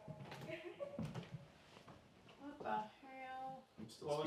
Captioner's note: doll giggling